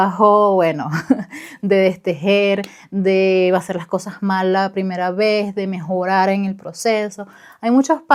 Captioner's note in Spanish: risas